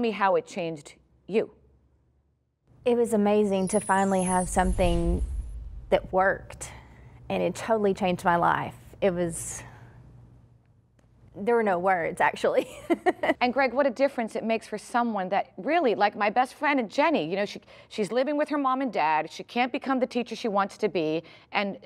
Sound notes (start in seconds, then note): 12.6 laughter